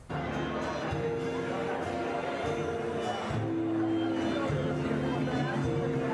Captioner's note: attendees chattering; cool music